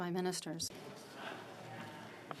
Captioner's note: speaking FRENCH